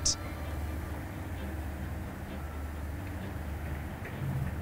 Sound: rushing water

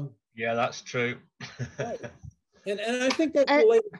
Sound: laughs

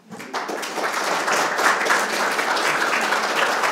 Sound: audience clapping

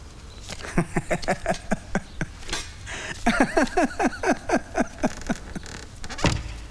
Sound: laughs

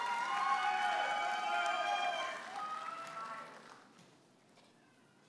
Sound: audience applauding and cheering

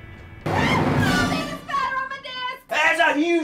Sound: Ashley screams

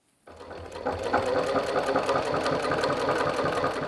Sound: rattling of the sewing machine

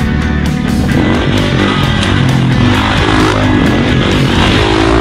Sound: upbeat music; engine revving

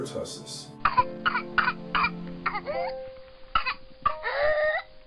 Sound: coughing

